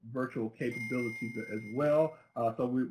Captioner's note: bell rings